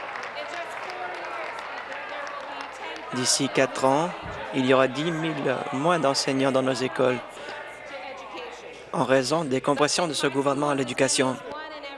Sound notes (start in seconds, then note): 3.0 some Applause